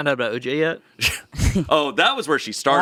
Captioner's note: laughs